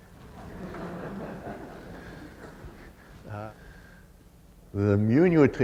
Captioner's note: laughter